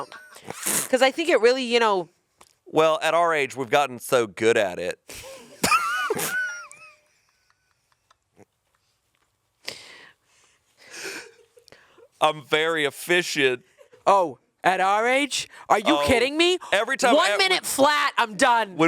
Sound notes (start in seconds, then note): 0.0 chuckling; 5.2 chuckling; 13.7 chuckling